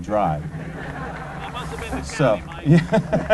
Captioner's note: laughter